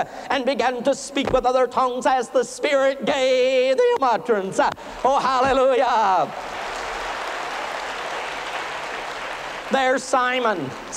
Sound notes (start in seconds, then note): 6.2 applause